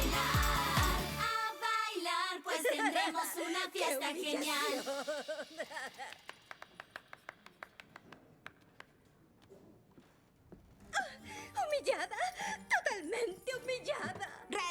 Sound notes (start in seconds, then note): 0.0 band drops out; 6.0 weak applause